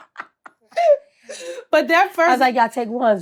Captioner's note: Blac Chyna laughs